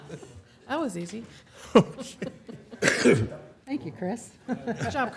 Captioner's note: laughter